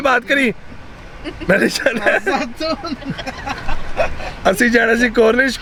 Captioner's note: everyone's laughing